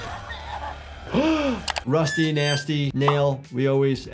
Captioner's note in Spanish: jadea